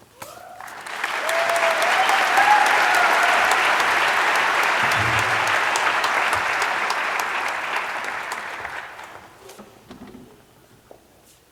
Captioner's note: applause